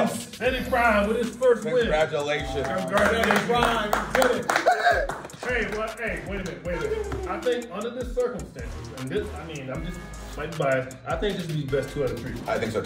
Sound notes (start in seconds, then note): 2.5 applause